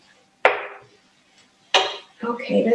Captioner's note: spoon thudding